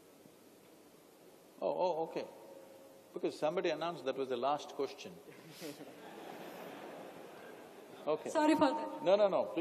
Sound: laughter

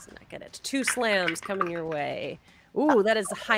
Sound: dice clatter

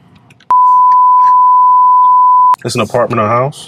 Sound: beeping

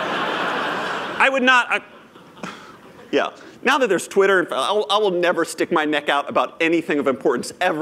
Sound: laughter

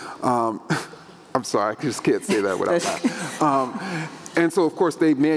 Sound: scoffs

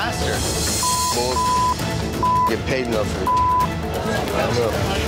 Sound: beep

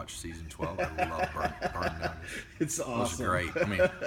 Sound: laughter

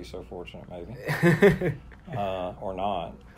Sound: laughing

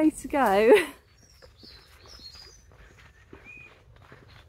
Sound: birdsong

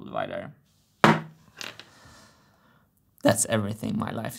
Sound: bonk; draws breath

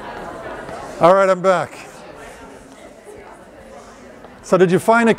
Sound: chatter

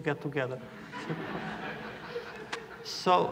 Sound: laughter

